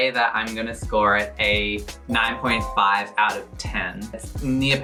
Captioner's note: dings